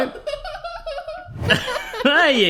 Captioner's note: laughs